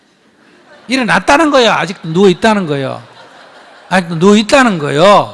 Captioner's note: audience Laughter